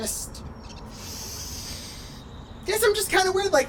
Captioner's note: sharp inhale